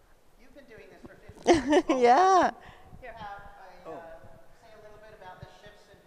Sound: laughs

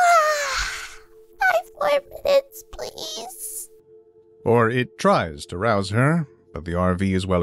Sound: yawn

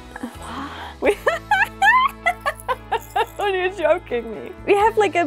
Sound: laugh

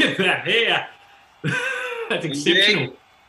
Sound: laughing

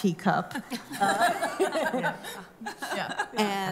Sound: laughter

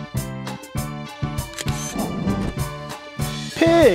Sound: SFX: Camera Shutter

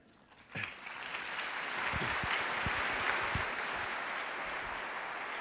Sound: applause

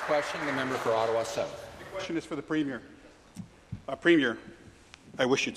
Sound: applause

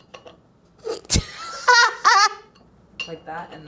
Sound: laughing

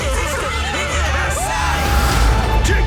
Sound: laughing; screams

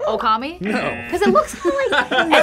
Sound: buzzer barks; buzzer

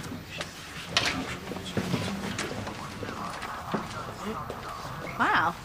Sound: police radio chatter in the background

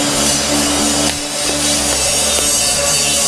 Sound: grinding

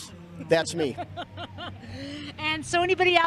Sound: chuckle

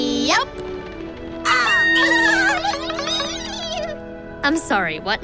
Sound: chattering

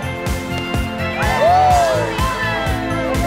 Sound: cheering

